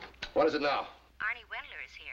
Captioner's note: voiceover